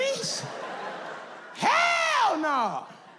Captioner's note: audience laughs